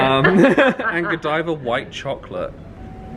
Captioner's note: laughing